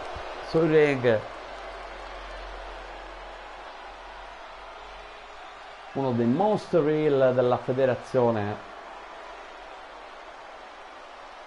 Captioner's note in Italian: Applauso